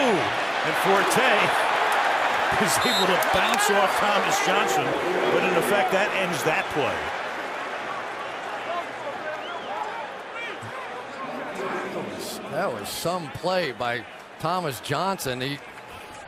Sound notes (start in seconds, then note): 11.7 pa announcement